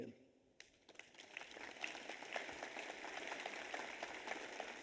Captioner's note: audience applauds